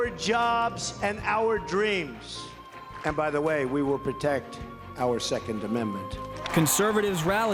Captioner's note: cheers, applause